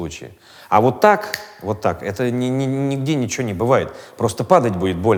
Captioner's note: snaps fingers